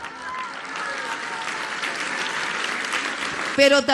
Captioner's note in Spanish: aplausos